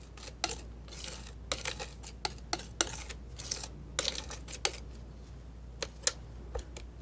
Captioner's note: scratching